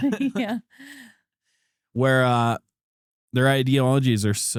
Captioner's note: both Laughing